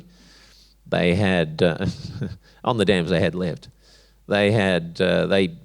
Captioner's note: chuckles